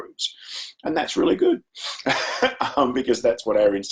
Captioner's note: chuckles